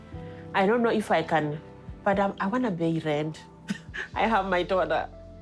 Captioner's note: chuckles